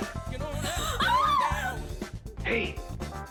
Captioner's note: Trixie screaming